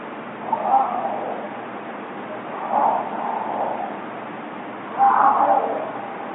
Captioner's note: creature continues vocalizing